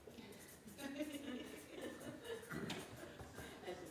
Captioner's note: laughing